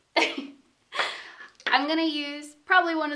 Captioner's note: chuckles